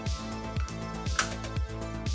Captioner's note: snap